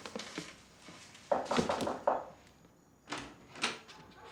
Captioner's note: door knocks